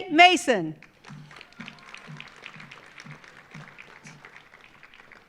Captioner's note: audience applauding